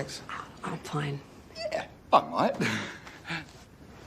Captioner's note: laughs